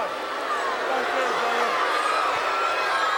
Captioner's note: crowd boos